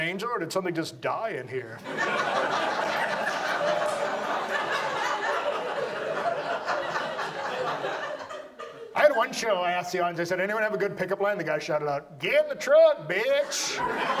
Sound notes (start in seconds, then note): 8.8 audience laughs